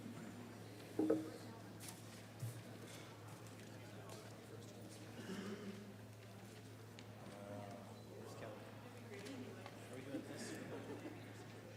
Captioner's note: gavel